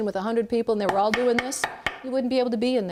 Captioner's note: tapping